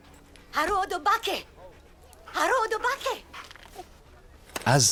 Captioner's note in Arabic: الصوت المنطوق البدوي